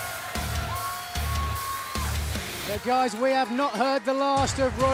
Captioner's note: cheers and applause